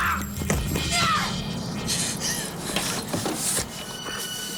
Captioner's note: Graham screams; Jodie yells